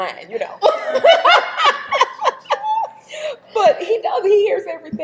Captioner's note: both laughing